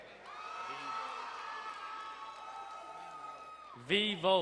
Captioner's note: crowd cheering and applauding